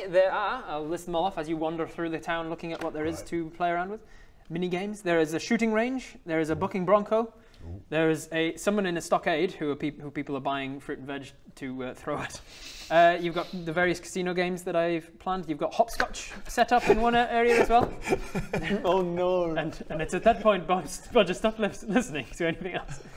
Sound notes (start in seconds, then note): 17.4 concerned snickering